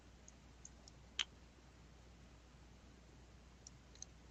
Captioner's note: mouse clicking